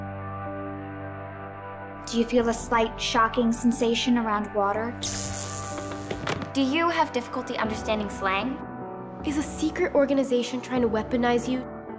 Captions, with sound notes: Do you feel a slight, shocking sensation around water? [electrical buzzing] Do you have difficulty understanding slang? Is a secret organization trying to weaponize you?